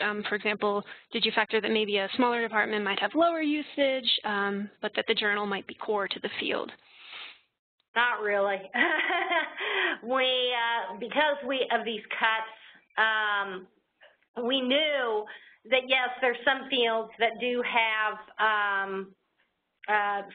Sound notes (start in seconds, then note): 8.8 laughing